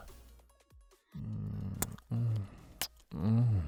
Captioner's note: smooch; smooching continues; smooching intensifies